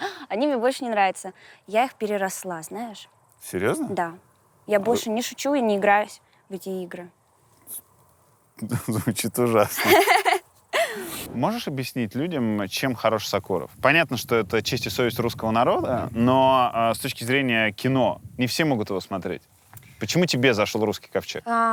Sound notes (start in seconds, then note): 9.8 laughs